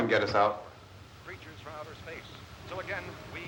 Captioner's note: radio